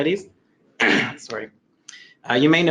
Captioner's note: clears throat